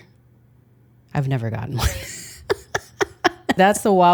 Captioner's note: laughs